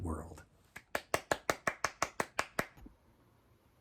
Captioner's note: clapping